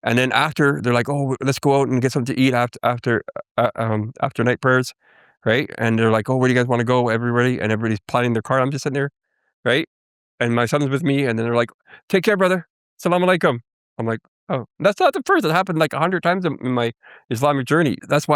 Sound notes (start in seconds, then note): 13.2 speaking foreign language